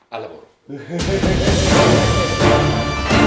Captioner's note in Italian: risata